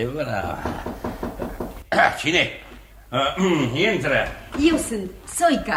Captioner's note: knocks on the door